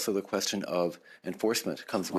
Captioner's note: speaking French